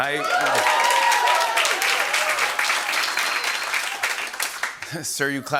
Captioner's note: cheers and applause